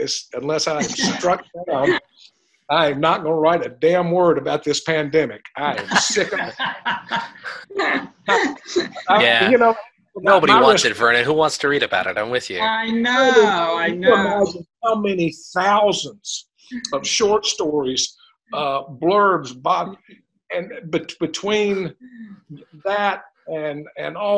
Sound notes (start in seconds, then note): 5.7 laughter